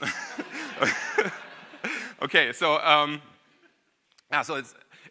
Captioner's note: audience laughing; laughs